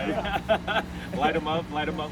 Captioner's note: man laughs